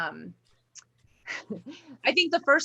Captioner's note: giggles